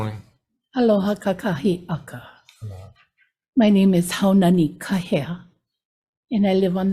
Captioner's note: speaks Hawaiian